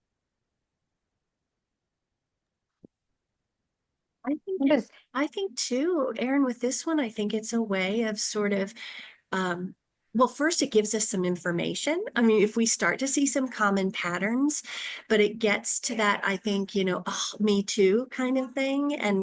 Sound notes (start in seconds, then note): 4.3 speaking faintly